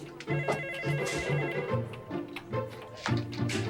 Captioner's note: phone rings